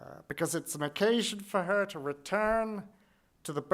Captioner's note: none